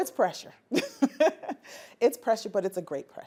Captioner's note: laughing